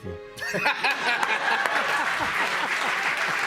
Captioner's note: cheers and applause